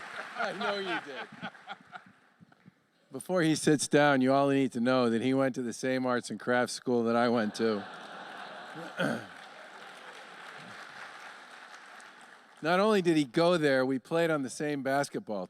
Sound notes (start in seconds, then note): 7.3 laughter; 7.8 applause